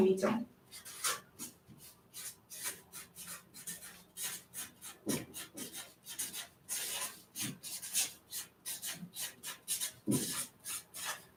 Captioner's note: скрежет маркера по бумаге